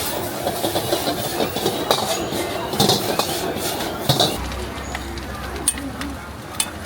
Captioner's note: the breath of the wok